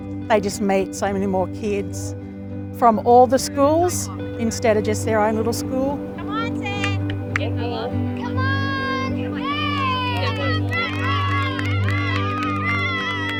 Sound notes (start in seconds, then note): 8.1 cheering